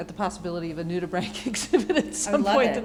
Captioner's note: laughter